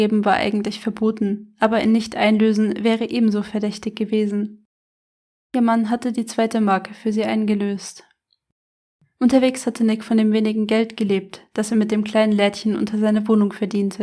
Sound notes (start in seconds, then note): none